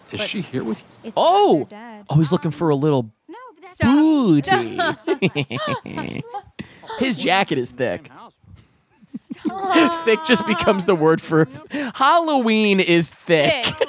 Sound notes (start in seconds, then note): 4.4 both laughing; 13.1 laughing